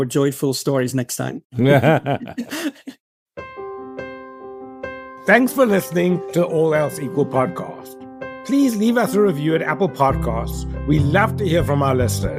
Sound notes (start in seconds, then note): 1.6 laugh